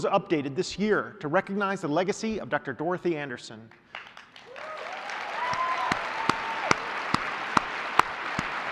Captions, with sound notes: updated this year to recognize the legacy of Dr. Dorothy Andersen. [APPLAUSE]